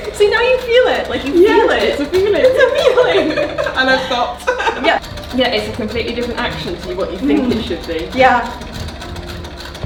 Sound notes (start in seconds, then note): 5.0 wheels clatter